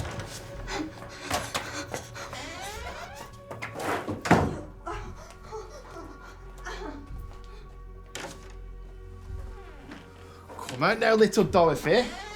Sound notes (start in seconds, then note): 0.0 door clattering; 0.2 Dorothy gasping; 8.2 latch clicking